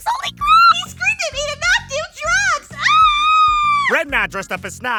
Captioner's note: high-pitched squealing